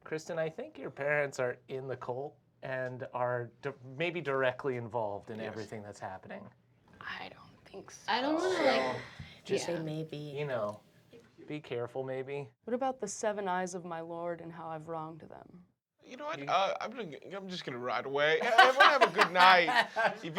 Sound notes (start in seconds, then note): 18.4 laughs